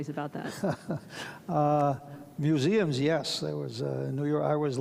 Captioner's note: chuckles